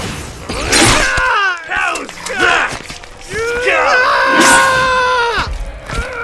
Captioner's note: screaming